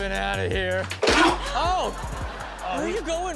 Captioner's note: man groans